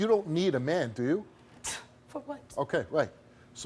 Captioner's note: scoffs